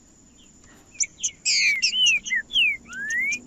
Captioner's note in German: trinca ferro cantando